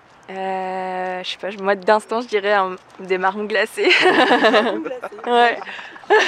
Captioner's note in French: rires